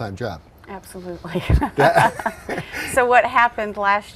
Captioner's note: laughing together